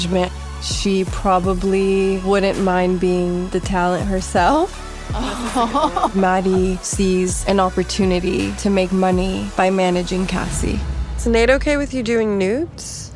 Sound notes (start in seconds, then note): 5.1 laughs excitedly